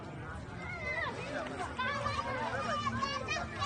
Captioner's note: children chattering